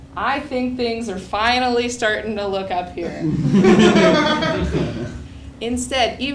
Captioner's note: laugh